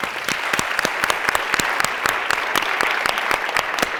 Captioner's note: applauding